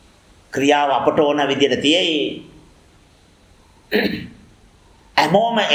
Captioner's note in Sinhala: උගුර කෑරීම